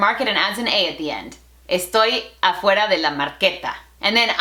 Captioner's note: Spanglish